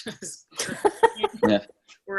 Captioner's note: all laugh